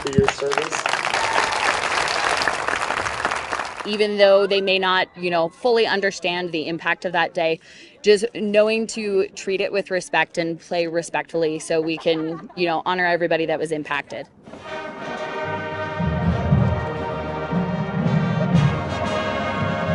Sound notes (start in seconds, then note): 4.1 applause